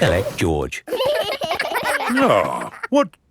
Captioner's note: giggling